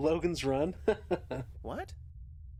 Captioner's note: laughs